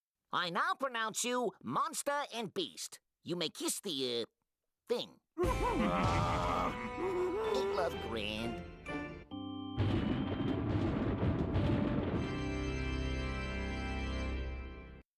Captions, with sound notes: I NOW PRONOUNCE YOU, MONSTER AND BEAST. YOU MAY KISS THE, UH, THING. [both grunting] AIN'T LOVE GRAND?